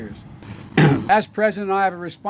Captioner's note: awkward throat clearing